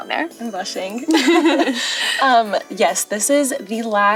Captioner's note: laughing